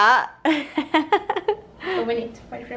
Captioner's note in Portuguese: rindo